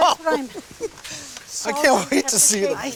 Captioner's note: laughter